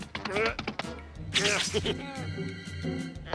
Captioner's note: straining, laughs